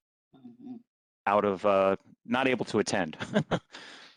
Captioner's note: laughter